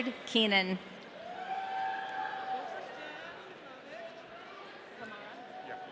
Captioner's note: audience cheering